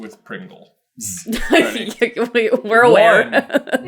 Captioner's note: laughing